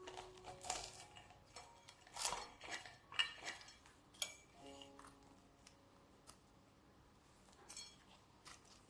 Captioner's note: crispy sound and music